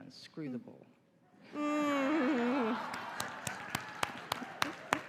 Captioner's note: laughter, applause